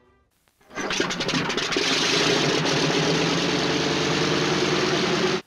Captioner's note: plane Engine Starting